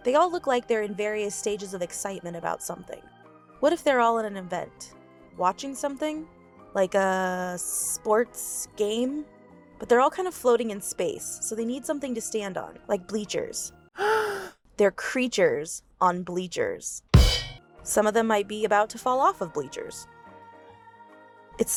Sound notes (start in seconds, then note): 13.9 gasp